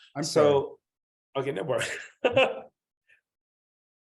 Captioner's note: laughs